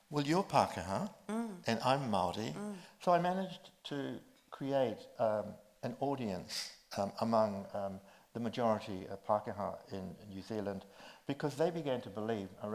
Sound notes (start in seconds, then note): none